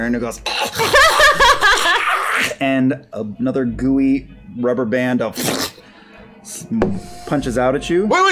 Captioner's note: snickering